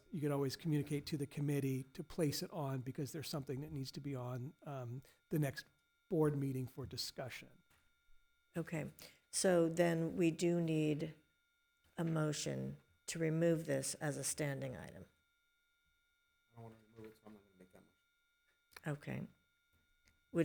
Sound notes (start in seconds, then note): 16.7 speaking off-mic